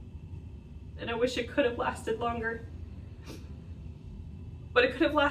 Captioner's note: sniffs